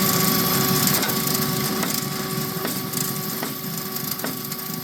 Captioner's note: drill whirring